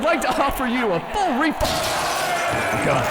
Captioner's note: crowd booing and complaining; window breaking